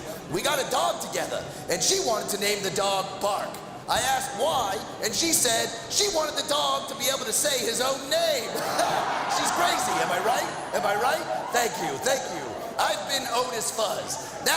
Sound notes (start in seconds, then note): 8.4 laughing